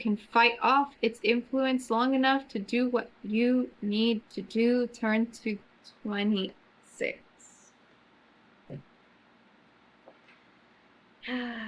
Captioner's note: sighs